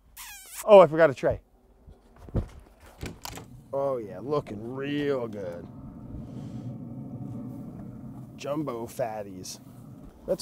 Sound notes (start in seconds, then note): 0.0 kiss smooching; 1.9 lid clicks; 1.9 footfalls shuffling; 5.8 burner blowing